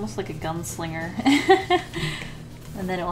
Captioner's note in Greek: Γέλια